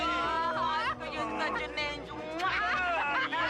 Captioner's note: kissing